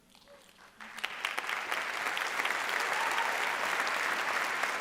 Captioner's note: audience applauding